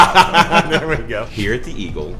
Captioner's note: laughs